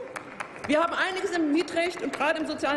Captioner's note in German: Applaus